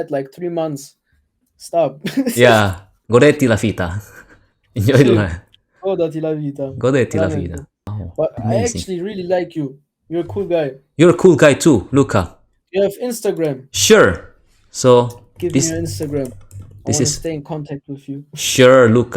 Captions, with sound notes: like three months. Stop. Enjoy the life (Italian) Exactly, enjoy the life I really like you. You're a cool guy. You're a cool guy too Luca. Do you have Instagram? Sure. Give me your Instagram, i want to stay in contact with you